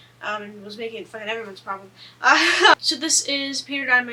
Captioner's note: laughs